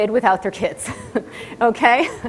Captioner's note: audience laughter